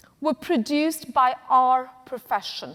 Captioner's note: none